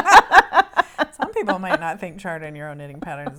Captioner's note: both laughing